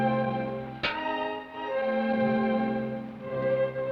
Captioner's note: pan clangs